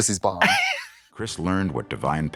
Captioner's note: Katya snickers